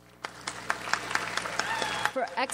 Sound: audience applauds

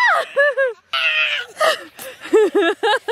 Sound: screaming; laughs

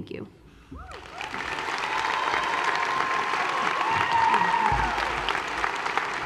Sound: applause

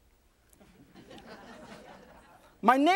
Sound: audience laughs

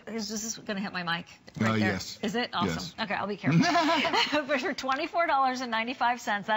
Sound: laughter

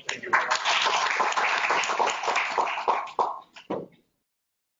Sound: applause

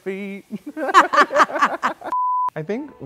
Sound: both laughing

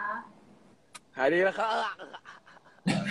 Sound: fakes coughing

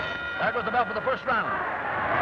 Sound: bell rings

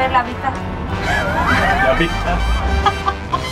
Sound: laughter

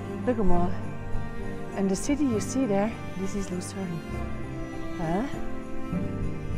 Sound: swiss german: Lueg emal!

